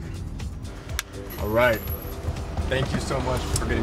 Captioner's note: clapperboard clacks